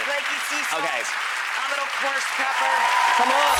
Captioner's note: audience applauds; audience cheers and applaudes